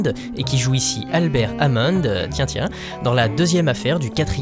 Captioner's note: hmmm, hmmm